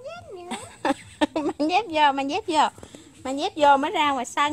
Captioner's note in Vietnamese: Tiếng cười khúc khích